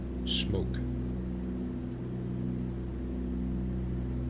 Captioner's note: aircraft engines sounding